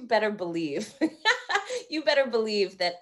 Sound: laughing

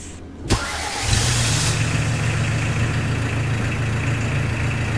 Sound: engine rumbling

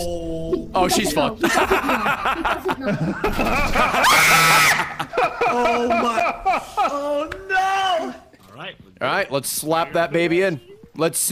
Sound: laughs

